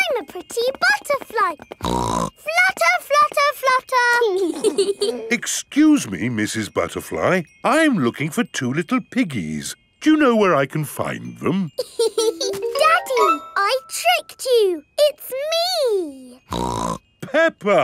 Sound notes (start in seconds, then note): 1.8 snorts; 4.4 both giggling; 11.8 laughs; 16.5 snorts